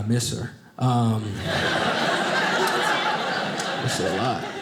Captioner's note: audience laughing